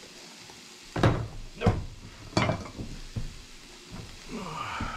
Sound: water running

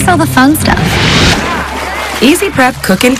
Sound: whoosh; splash

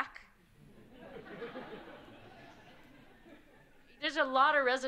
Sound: audience laughing

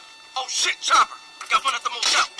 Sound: voiceover

